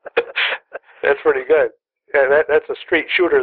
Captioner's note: laughter